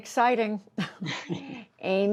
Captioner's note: laughter